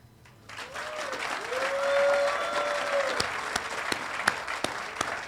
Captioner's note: audience applauding and cheering